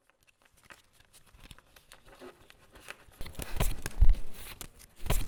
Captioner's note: cards shuffling